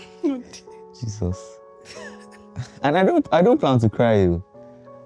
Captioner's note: laughs; laughs